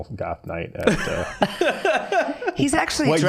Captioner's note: laughing